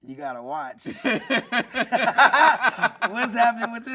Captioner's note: everyone laughing